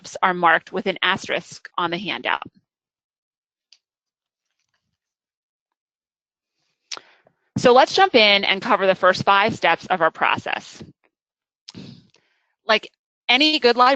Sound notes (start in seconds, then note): 3.0 silence